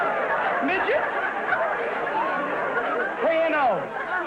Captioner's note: audience laughter